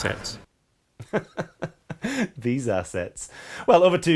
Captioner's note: laughing